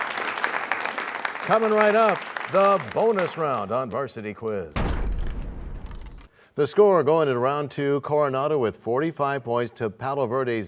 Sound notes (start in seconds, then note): 0.0 applause; 4.8 crashing sound